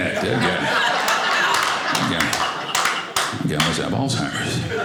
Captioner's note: audience applauding